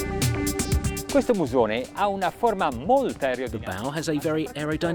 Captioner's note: upbeat music; foreign language